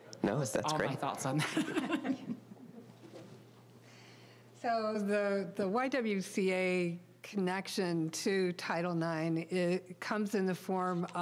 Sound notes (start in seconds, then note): 1.3 all laughing